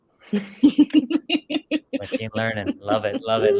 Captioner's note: all laugh